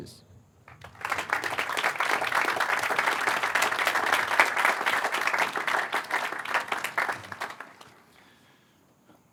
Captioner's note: applause